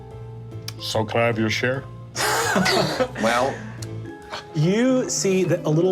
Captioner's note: laughing